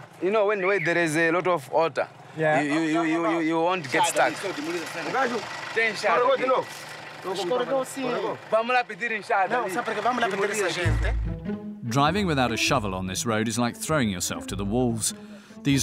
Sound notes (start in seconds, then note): 4.7 Portuguese spoken audio